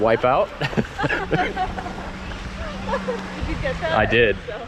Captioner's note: both laughing